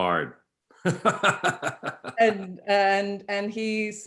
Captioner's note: chuckles